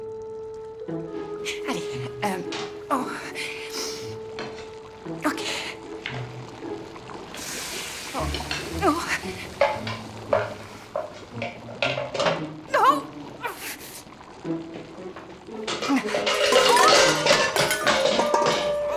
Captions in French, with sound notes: Ok... hum... D'accord. (eau bouillonnante, grésillement) Oh. Oh ! (claquement)